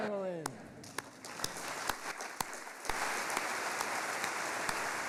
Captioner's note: audience applauding